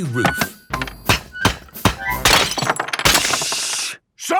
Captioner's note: banging, crashing